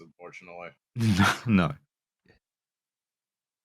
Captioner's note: laughs